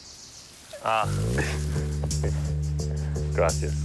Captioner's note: chuckles